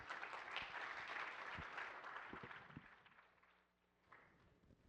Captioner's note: applause